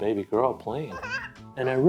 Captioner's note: cute baby girl playing laugh